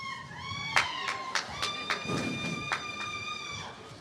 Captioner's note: cheers